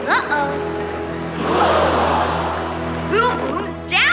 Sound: crowd gasps

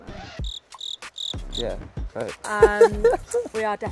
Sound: cricket chirping; laughs

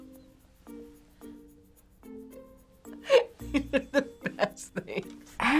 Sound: laughing

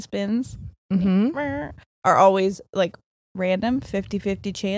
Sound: none

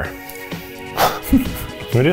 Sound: laughing

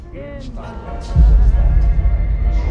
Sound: CX404 whimpering; deep ominous booming

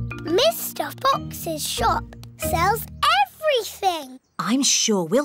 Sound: none

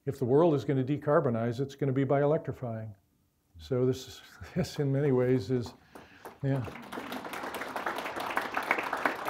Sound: clapping

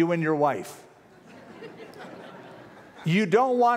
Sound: laughter

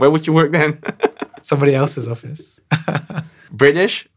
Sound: laughing

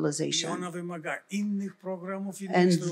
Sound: foreign language

